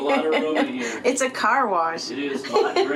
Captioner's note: laughs